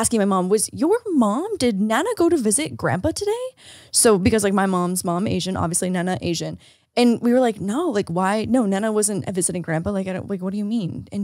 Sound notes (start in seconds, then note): none